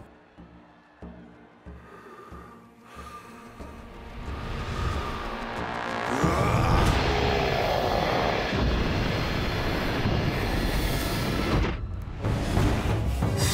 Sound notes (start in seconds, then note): 0.0 drums beating; 6.0 grunting